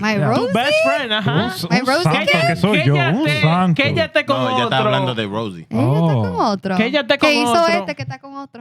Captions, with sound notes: My rosy? To best friend. Uh-huh. My rosy kid? (Speaking Spanish) Rosy. (Speaking Spanish) No.